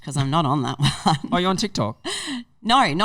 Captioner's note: laughing